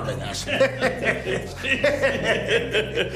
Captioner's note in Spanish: Risas